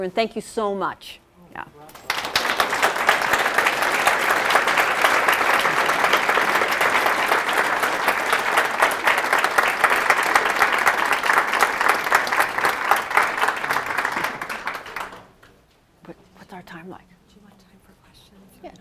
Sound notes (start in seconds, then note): 2.0 applause